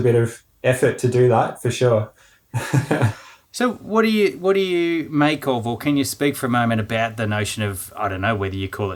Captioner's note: laughing